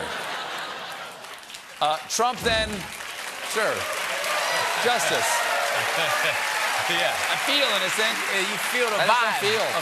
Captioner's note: applause